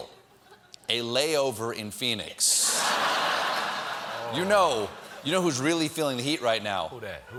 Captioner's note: laughter